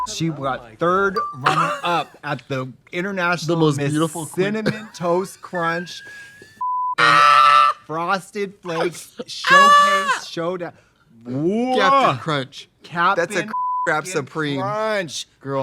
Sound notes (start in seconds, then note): 5.6 beep; 9.4 Trixie wailing; 13.4 beep